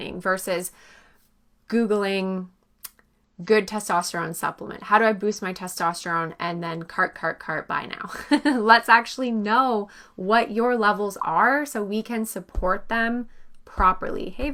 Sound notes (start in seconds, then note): 8.1 chuckles